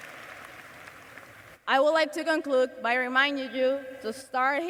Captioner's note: cheers and applause